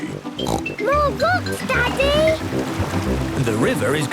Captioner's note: snorts